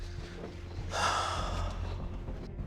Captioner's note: sighs